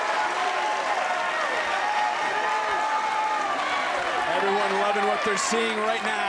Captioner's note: crowd cheers